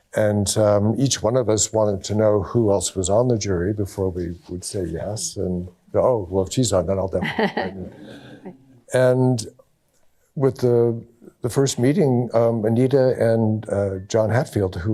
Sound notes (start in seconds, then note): 7.1 laughter